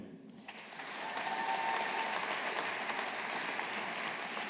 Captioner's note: audience applauding